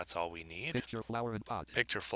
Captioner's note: synthesized speech